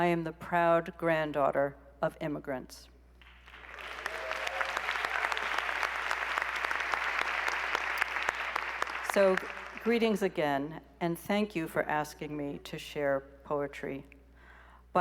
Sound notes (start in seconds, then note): 3.2 applause